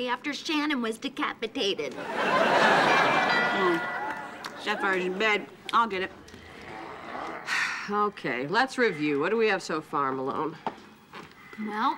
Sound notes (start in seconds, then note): 1.9 audience laughing; 2.8 doorbell ringing